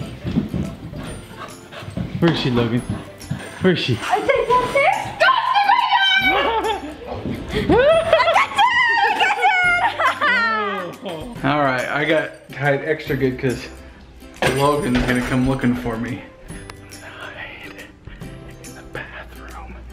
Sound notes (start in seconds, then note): 7.8 screams; 10.3 laughs